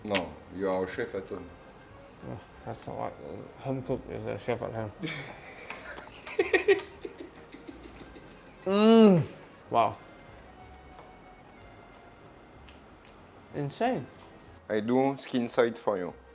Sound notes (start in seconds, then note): 4.8 laughs